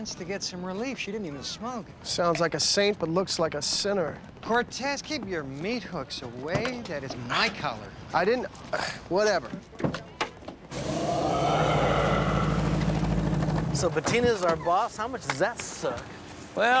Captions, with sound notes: and cancer patients to get some relief. She didn't even smoke. Sounds like a saint, but looks like a sinner. Cortez, keep your meat hooks away. That is my collar. I didn't... (scoffs) Whatever. (recording of deep growling plays) So, Bettina's our boss. How much does that suck?